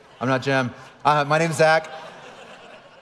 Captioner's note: audience laughing